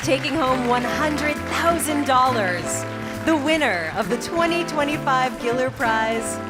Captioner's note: applause